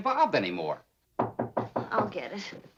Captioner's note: knock